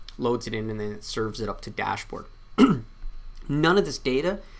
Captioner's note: clears throat